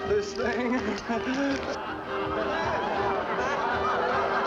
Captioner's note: laughter